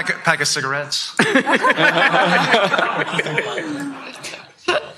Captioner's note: laughter